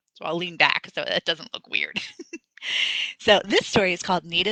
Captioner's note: laughs